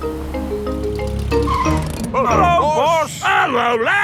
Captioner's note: brakes squeal